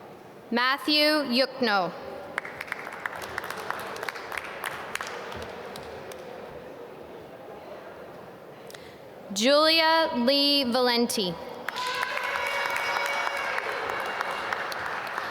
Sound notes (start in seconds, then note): 2.3 applause; 11.6 applause